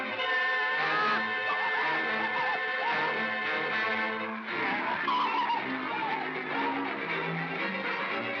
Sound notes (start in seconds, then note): 0.0 suspenseful music; 0.8 Stan & Ollie scream; 4.0 suspenseful music